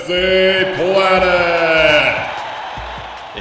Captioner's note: audience roars